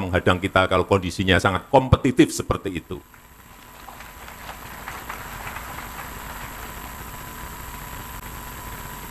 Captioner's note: applause